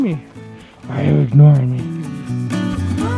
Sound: in a funny voice

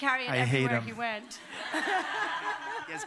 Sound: laughter

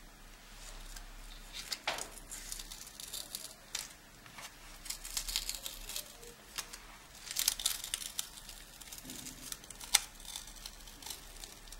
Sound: tape peeling sounds

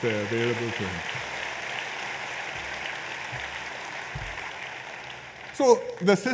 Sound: applause

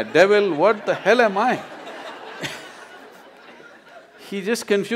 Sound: laughter

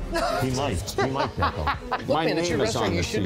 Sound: waitress laughs

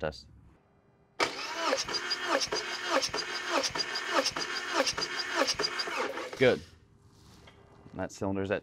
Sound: sound of engine trying to turn over

